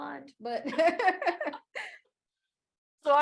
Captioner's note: laughter